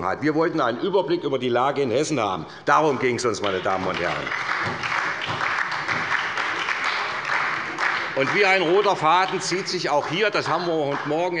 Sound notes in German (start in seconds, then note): 6.5 Beifall bei der SPD